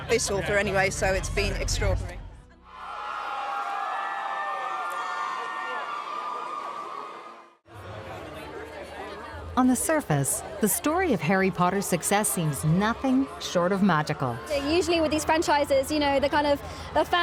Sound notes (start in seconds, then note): 5.2 audience cheering